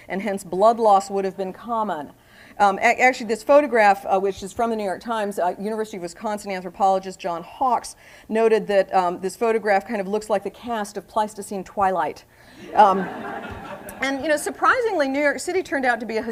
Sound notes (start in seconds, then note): 12.6 laughter